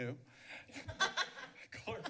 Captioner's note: laughs